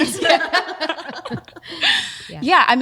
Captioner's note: laughing